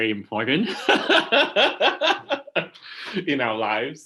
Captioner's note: laughing